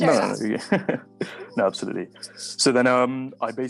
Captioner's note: laughing